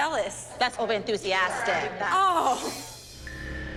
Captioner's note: laughs